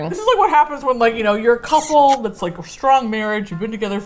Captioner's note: smooch sound